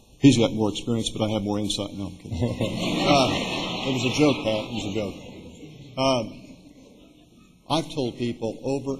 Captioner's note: laughter